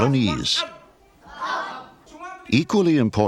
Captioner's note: children speaking native language